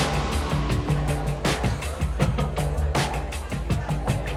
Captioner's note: chuckles